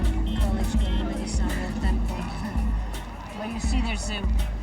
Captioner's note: speaking in foreign language